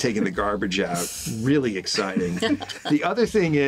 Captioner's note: all chuckling